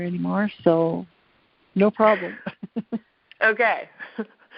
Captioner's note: laughs